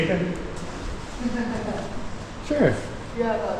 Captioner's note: guide laughs